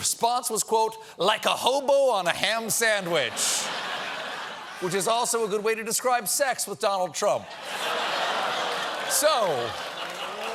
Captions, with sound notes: THE RESPONSE WAS "LIKE A HOBO ON A HAM SANDWICH." ( LAUGHTER ) WHICH IS ALSO A GOOD WAY TO DESCRIBE SEX WITH DONALD TRUMP.